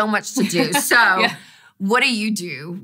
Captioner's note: laughing